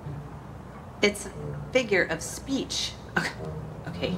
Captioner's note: laughs